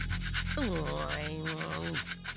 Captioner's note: grumbling